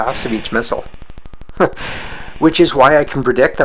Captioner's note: chuckles